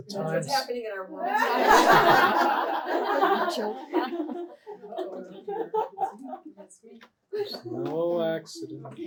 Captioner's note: laughter